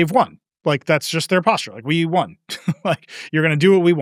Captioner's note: chuckles